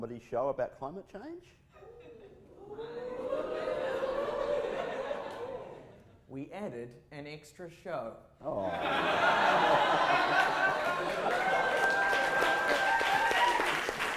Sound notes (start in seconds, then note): 1.8 audience goes ooooOOOO; 9.0 audience applause